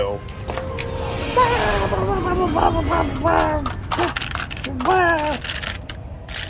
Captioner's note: terrifying muttering